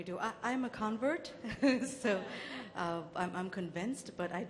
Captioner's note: laughs